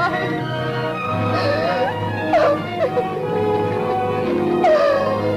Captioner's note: sobbing